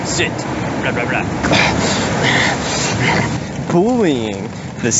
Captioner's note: angry grunting